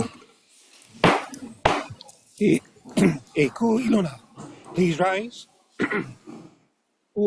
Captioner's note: gavel bangs twice